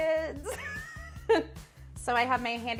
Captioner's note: laughing